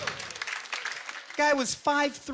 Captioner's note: scattered applause